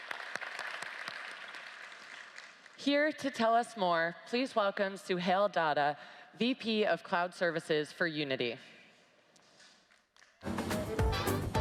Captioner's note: applause